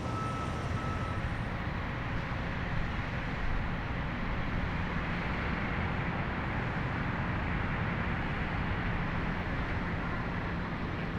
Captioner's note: car backing up; crane sounds